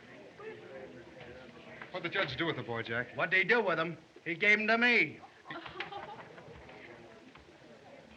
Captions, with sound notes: What'd the judge do with the boy, Jack? What'd he do with him? He gave him to me! [ Laughing ]